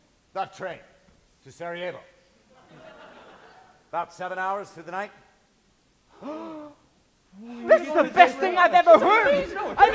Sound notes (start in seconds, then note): 2.6 audience laughs; 6.1 gasping